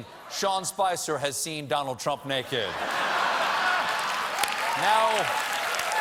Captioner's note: applause; laughter